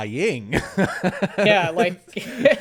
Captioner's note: laughing